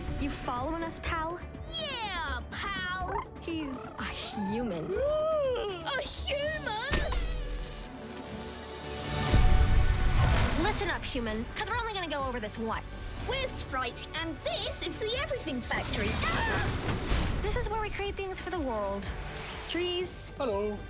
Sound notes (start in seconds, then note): 3.0 purrs; 5.0 gasps; 16.2 screams